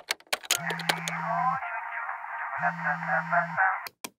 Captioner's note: ringtone